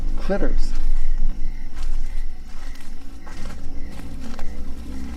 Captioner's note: crickets chirping